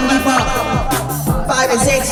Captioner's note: laughing hard